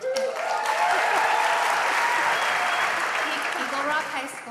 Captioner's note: applause